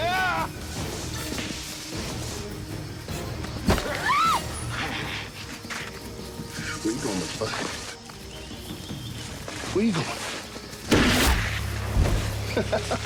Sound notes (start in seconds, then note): 3.8 screaming; 10.9 gunshot